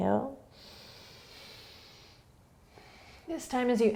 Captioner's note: inhaling